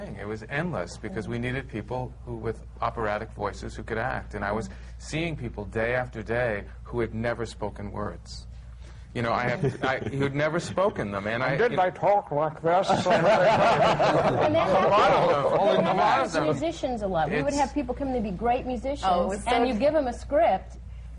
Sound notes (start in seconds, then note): 12.8 laughter